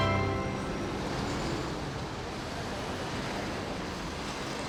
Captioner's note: traffic whooshing